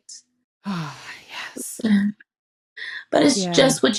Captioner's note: sighs